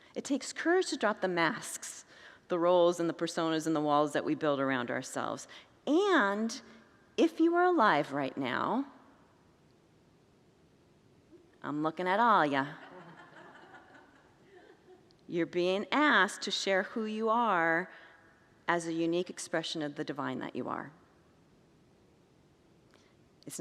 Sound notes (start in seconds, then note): 12.8 congregants laugh